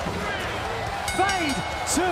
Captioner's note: bell ringing